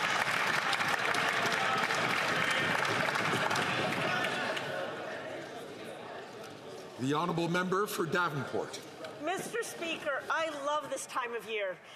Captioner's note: some Applause